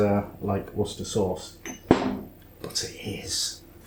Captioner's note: whispers